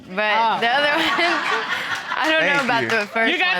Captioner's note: all laughing